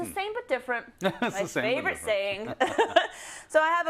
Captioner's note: laugh